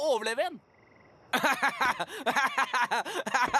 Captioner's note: laughing